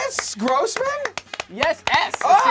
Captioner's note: loud clapping